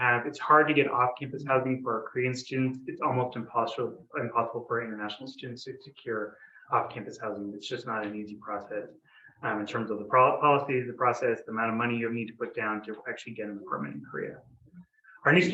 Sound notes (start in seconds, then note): none